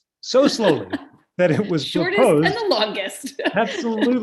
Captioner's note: laughter